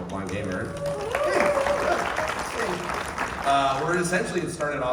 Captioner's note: applause